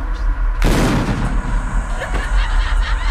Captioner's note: large explosion